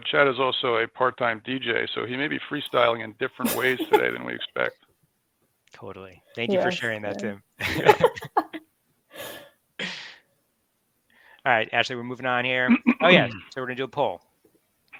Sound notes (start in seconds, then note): 3.4 laughs; 7.6 group laughs